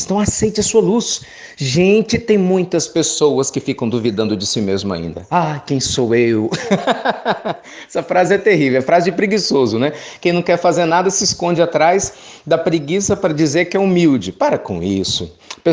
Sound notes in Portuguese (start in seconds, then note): 6.5 Risos